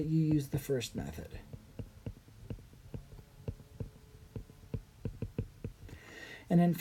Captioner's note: writing